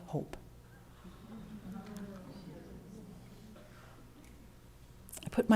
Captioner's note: moans